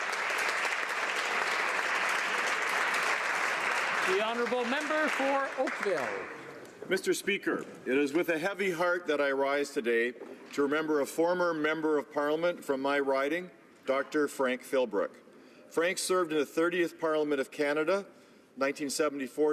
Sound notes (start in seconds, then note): 2.7 applause